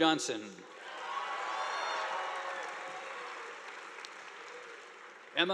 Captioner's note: audience applauding